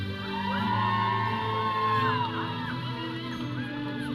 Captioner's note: audience cheering